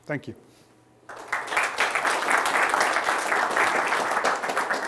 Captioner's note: applause